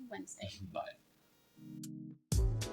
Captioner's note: laughs